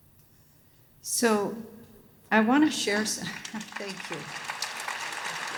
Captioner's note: applause